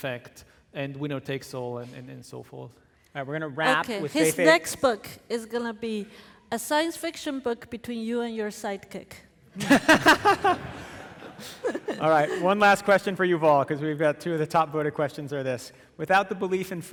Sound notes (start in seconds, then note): 9.6 audience laughing